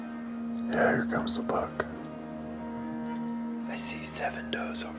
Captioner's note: offscreen, whispering